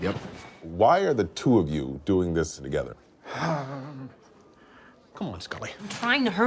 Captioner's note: Scully breathing noise